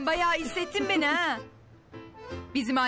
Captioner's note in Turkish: Gülme sesi